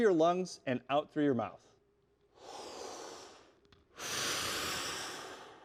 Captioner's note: breathes loudly